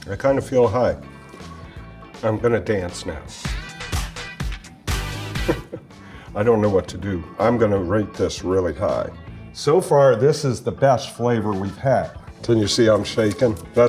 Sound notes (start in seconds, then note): 3.5 upbeat music; 5.4 chuckles